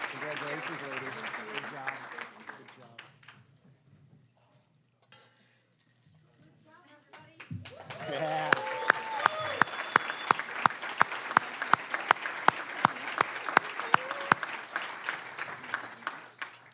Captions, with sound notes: (applause) >> Good job, everybody! (cheering, applause) (applause)